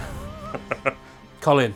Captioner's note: laughs